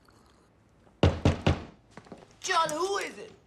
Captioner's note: knocking